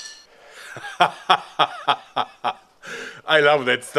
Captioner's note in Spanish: Risa masculina